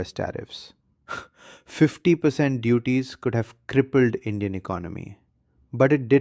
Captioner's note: exhales sharply